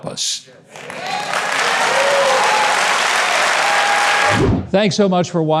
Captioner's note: audience claps and cheers